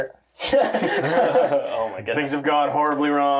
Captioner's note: all laugh